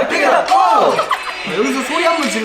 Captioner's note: cracks up